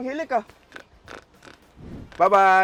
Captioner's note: continues snoring